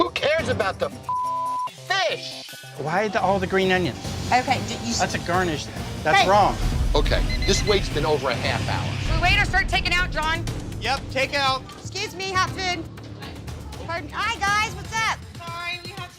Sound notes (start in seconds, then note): 1.0 beep; 5.2 dramatic suspenseful music; 7.2 timer beeping